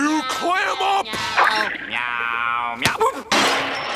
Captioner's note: meowing; banging